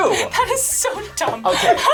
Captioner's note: laughs